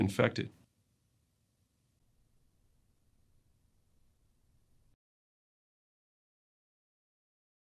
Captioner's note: silencio